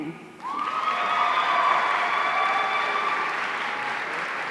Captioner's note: audience cheering